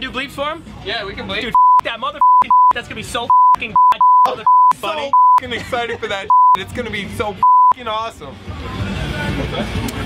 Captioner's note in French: biiiip